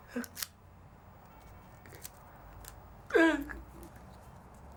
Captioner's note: crying